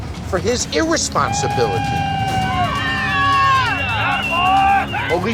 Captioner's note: cheering